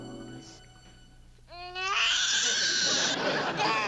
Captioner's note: cries